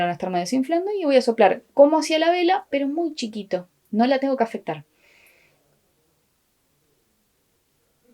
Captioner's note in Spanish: soplido inaudible